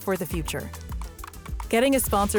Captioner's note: typing sounds